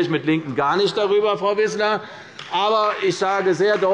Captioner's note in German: Beifall bei Abgeordneten der CDU